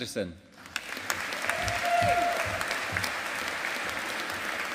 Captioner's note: audience applauding